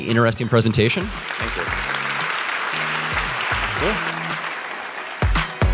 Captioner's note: audience applauds; upbeat funky music